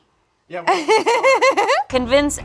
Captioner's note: laughs